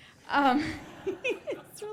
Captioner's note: laughter